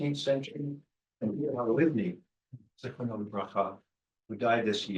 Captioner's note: speaking in foreign language